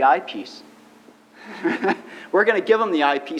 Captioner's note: laughs